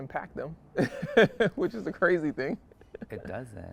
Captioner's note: laughs